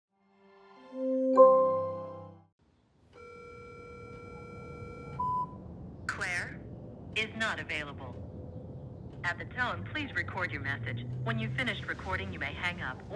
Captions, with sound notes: [gentle music] [phone rings] - Claire is not available. At the tone, please record your message. When you've finished recording, you may hang up